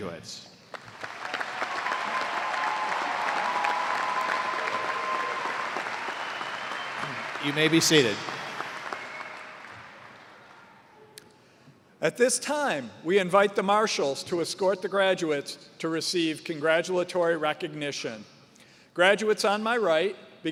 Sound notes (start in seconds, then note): 4.8 cheers and applause